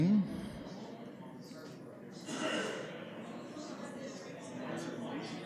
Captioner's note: background chatter